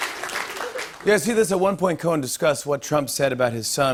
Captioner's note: normal voice